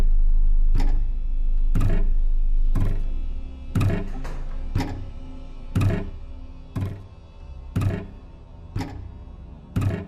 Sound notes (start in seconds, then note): 2.2 soft tense music; 3.7 object thudding rhythmically